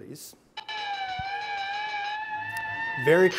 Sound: siren blaring

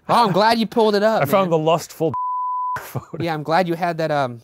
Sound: beeping

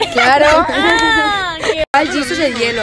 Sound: laughs

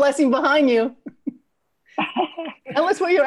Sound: all laughing

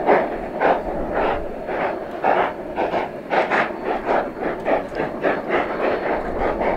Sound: 484 & 484 chugging slow

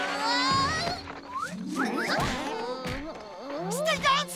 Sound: groaning

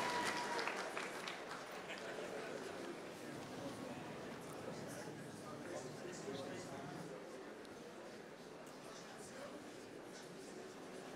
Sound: applause

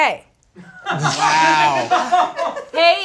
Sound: laughs

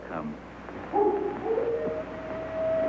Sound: wolf howls

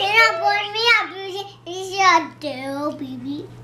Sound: baby talk

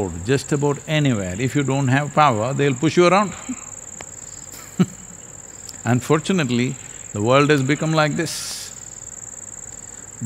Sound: laughs

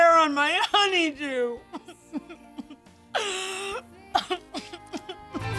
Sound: crying

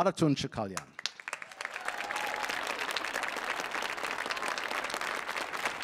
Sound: audience applauding

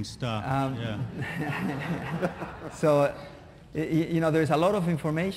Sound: laughter

